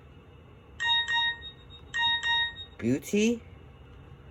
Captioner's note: Symbian Message Chime Rings